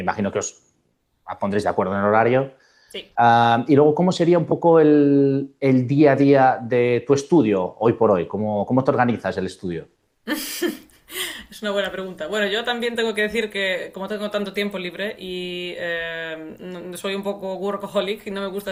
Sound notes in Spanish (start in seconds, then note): 10.3 risas